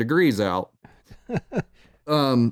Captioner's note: chuckles